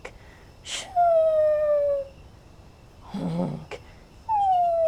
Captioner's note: mimics snoring